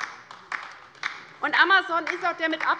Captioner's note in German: Beifall bei der LINKEN